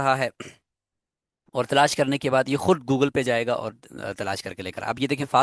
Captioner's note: clearing throat